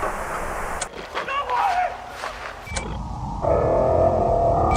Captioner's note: static hissing; man screaming